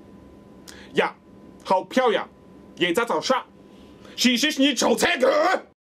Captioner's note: speaking Korean